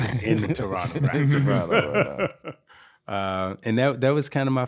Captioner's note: laughing